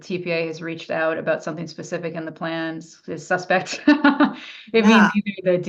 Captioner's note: laughs